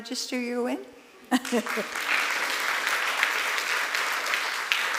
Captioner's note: applause